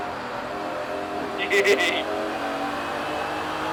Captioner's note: childish laughter